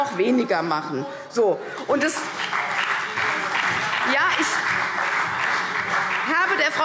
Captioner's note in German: Beifall CDU und BÜNDNIS 90/DIE GRÜNEN – Zuruf SPD